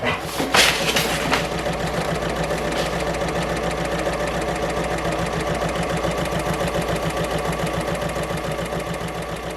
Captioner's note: sewing Machine Sounds